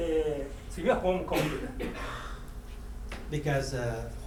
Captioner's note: speaking in foreign language; coughing